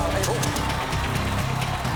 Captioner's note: applause